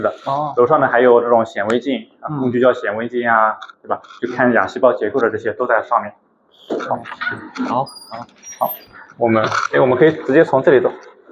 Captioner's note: laughs